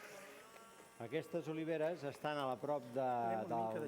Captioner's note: non-english speech